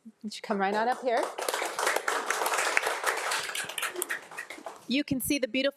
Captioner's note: audience applauding